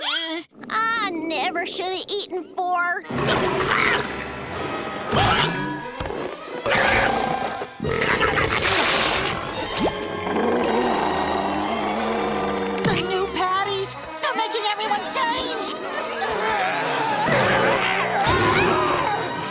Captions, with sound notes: I never should've eaten four. Ugh! Agh! [belching] [growling] The new patties! They're making everyone change! [groaning]